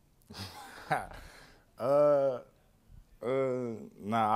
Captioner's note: laughs